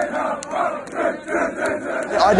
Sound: chanting; chanting continues

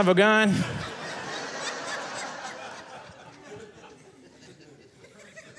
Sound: audience laughing

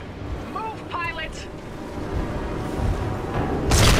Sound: radio

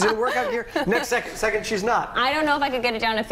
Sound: laughter

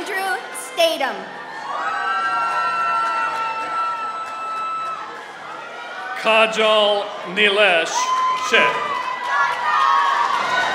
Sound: applause

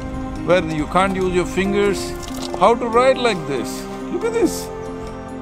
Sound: none

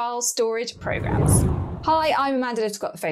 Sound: air whooshes

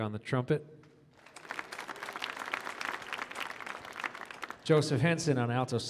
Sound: audience applauding

